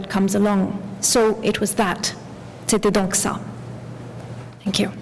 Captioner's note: french